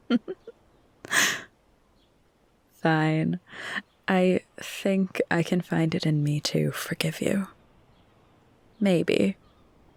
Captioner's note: laughs